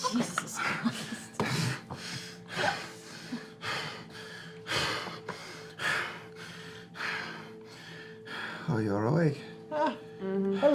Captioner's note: heavy panting